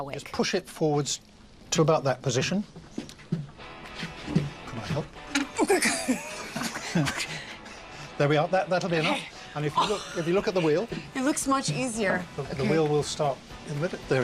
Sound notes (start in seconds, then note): 5.5 metal creaking; 6.3 grunting; 9.7 exhaling in disbelief